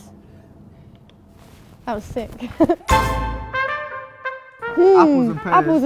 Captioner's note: laughing